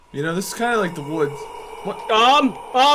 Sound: echoey, Breathy Noise

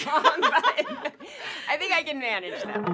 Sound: laughing

